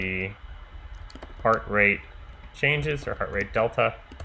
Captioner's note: keyboard clicking